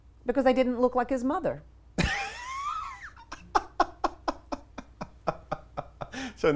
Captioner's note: laughs